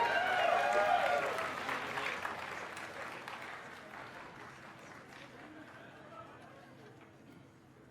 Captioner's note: cheers and applause